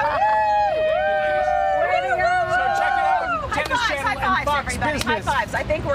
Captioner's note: cheers